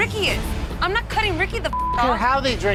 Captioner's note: beep